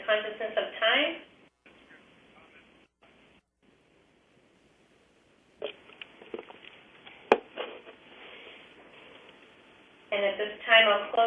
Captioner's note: pause